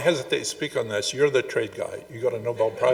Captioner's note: audience chuckling